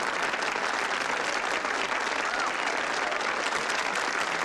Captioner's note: applauding